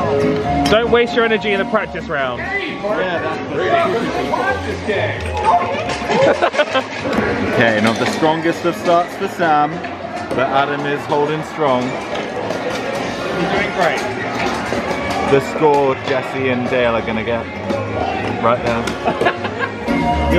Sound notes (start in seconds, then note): 5.6 hammering button; 6.1 laughing; 19.0 laughing